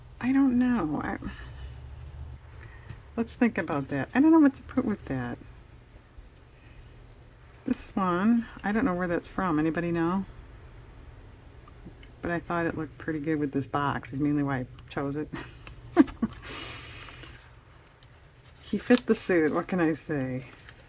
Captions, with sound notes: I don't know, let's think about that, I don't know what to put with that this one, I don't know where that's from, anybody know? but I thought it looked pretty good with this box is mainly why I chose it (laughs) he fit the suit, what can I say?